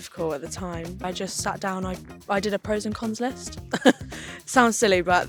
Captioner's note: chuckles